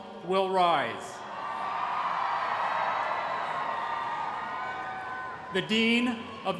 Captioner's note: cheering